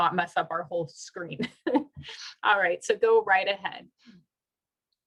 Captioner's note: laughter